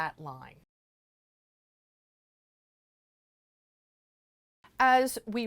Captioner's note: no Sound Present